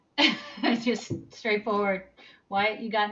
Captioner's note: laughs